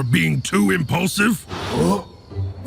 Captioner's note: grunting